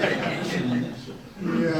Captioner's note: audience laughs